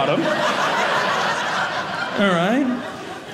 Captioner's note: audience laughing